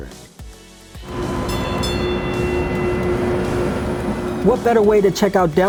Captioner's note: streetcar bell ringing